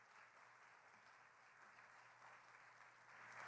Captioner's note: applause